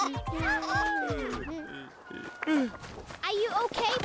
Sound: bleating; Peter moaning softly

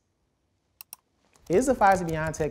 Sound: clicking sound

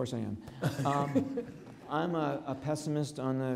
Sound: laughs

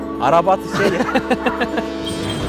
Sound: laughter

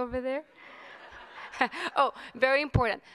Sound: audience laughing

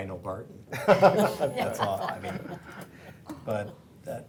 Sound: laughing

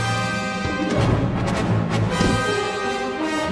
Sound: car door opens, then closes

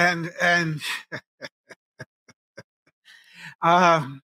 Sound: chuckling

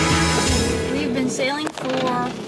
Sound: groaning and creaking noises

